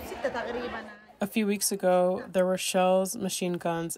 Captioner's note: through translator